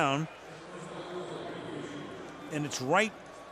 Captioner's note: pa announcement